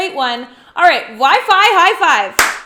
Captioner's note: claps hands